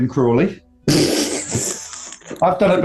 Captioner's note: spluttering laughter